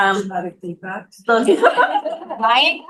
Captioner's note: laughing